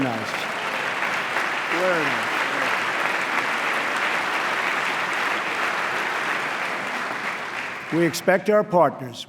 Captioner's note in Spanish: aplauso